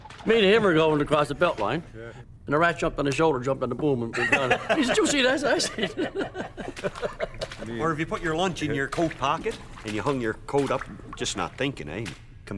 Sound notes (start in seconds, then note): 5.8 laughing